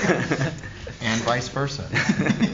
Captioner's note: laughter